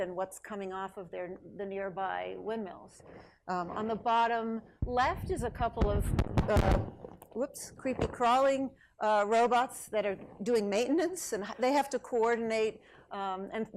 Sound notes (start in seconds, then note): 6.2 microphone crackles